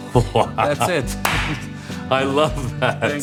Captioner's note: hands slapping